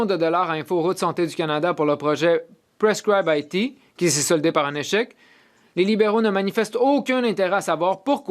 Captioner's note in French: voix de l'interprète